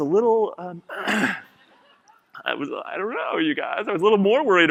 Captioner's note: clears throat